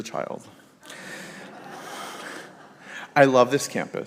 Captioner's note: congregation laughs